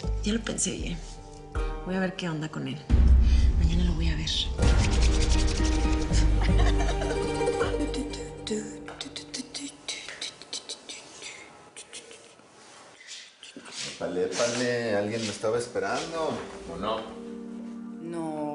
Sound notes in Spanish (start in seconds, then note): 6.1 Risas; 8.4 Tararea